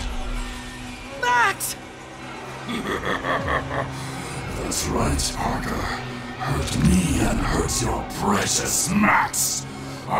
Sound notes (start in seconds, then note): 3.0 cackles